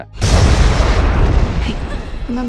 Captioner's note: clouds thundering